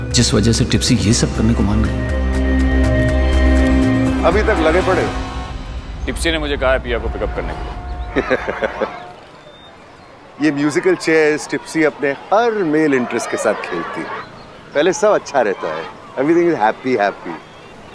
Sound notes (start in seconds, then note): 8.0 Karan laughs